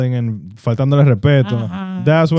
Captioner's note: speaking In Foreign Language